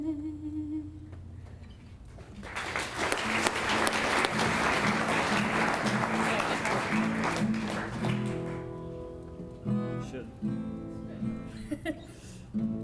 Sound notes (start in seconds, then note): 2.2 clapping; 10.1 guitar sound check